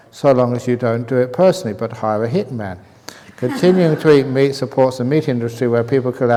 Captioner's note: laughs